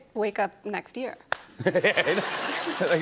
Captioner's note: laughter